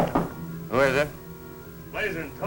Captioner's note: knocking